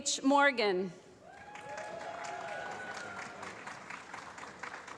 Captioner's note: applause